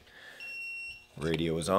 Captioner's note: beeps